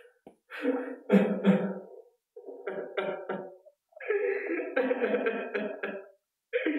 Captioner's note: crying